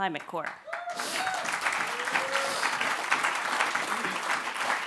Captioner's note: applause